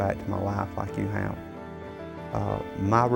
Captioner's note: laughs